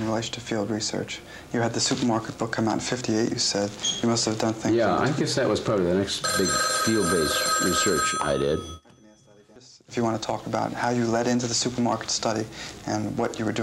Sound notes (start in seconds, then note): 8.8 phone rings